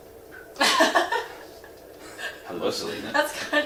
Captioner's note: laughing